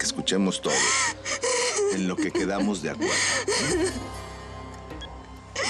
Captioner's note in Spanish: llanto de ella